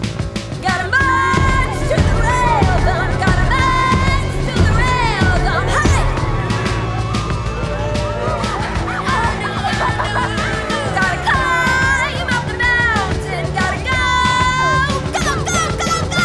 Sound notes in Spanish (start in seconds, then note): 6.4 multitud aclamando